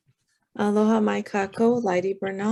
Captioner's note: speaking in foreign language